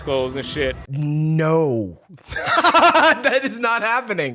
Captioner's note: laughs